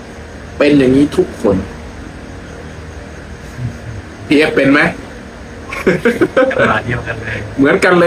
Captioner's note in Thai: เสียงหัวเราะ